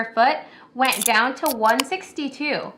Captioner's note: can opening